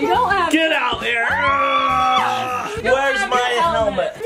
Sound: grunts

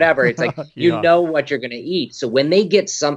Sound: laughing

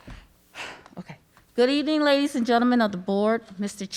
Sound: throat clearing; exhales

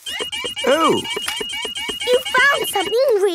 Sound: beeping

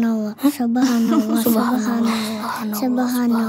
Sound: laugh

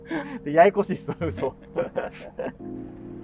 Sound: laughing

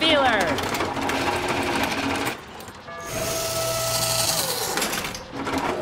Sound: machine whirring

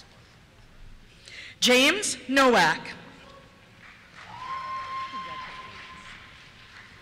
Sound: cheers

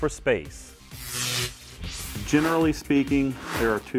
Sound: sound Effects

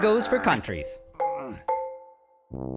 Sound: grunting

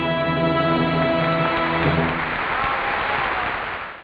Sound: audience applauding

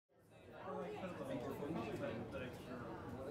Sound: classroom chattering

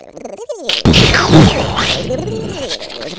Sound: explosion

